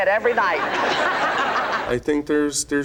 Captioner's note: audience laughs